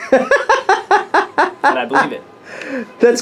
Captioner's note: laughs